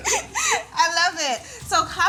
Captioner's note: laughs